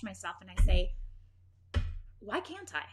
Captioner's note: thuds